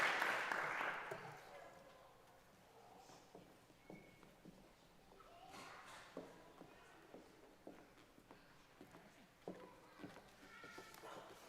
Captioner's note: applause